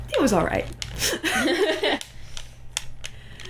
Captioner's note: laughter